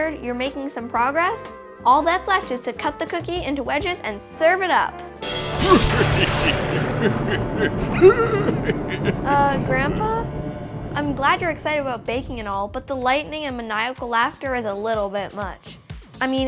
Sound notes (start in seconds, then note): 5.4 evil laughing; 6.7 thunder and lightning